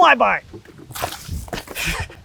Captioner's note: water sloshing; laughs